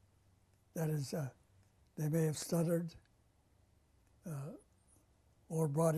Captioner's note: pauses for 3 seconds